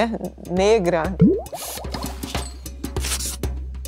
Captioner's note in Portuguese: Som de bolhas